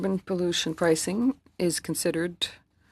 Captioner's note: speaking French